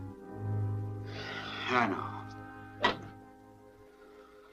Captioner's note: sighs